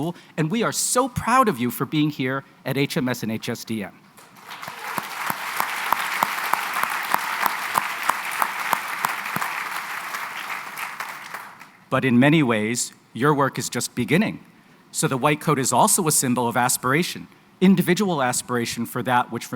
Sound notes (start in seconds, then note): 4.2 applause